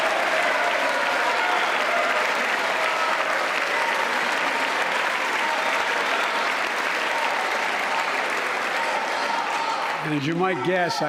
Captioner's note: applause